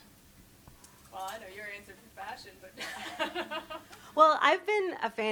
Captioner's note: laugh